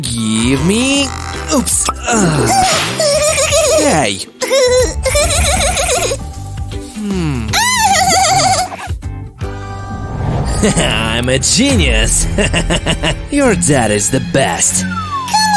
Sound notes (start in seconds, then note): 1.4 laugh; 12.2 laughs viciously